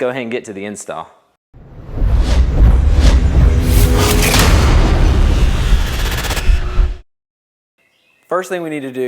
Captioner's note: sound effect